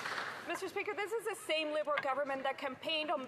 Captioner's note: some Applause